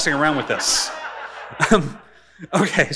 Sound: audience laughing

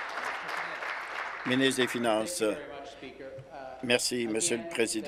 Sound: applause

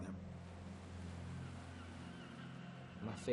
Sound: gulls squawking

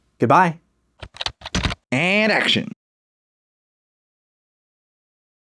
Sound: typing

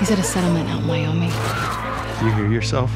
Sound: howling

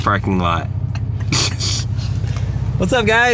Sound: laughing

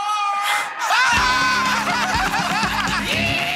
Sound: laughter

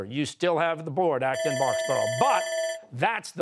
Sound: bell rings

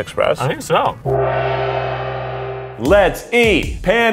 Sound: gong reverberates

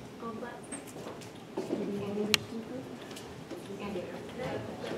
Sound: faint chatter far from mic

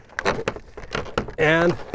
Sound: board clattering

